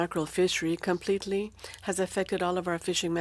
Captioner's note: speaking French